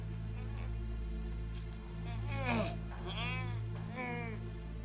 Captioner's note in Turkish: İnleme sesleri